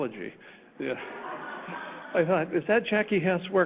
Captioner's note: audience laughs